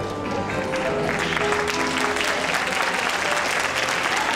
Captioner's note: cheering